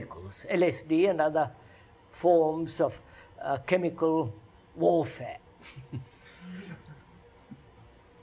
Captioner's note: laughs